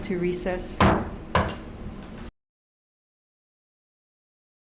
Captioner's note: gavel banging